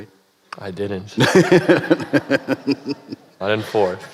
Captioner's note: laughter